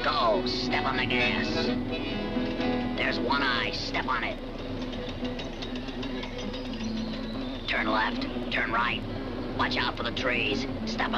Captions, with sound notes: (bike rattles) There's One Eye, step on it! Turn left, turn right, watch out for the trees. Step on the brakes.